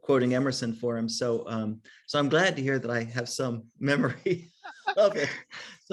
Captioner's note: laughs